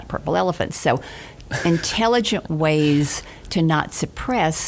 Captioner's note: chuckling